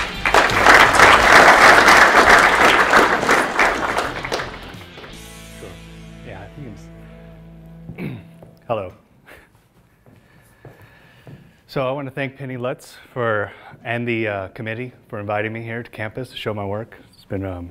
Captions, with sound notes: (audience applauds) - Sure, yeah, I think it's (clears throat). Hello. So I wanted to thank Penny Lutz and the committee for inviting me here to campus to show my work.